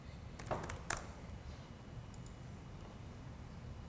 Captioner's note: keyboard clicking